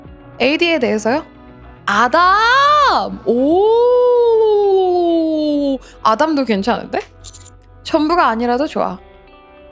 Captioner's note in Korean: 비명